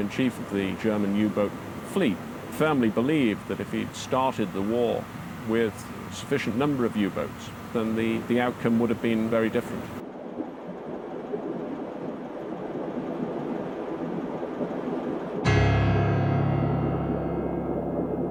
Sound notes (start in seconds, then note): 11.3 wind howling; 15.4 dramatic music